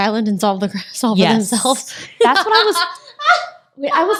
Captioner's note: laughs